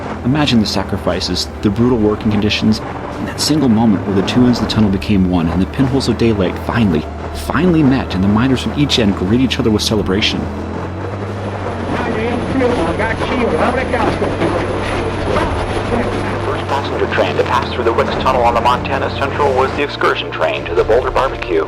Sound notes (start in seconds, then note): 11.9 old radio interference and audio tunes in slowly; 15.5 in old-time radio voice